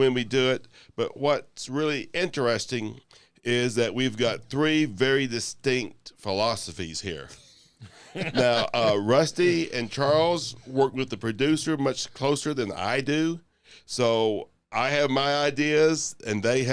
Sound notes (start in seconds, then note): 7.4 laughter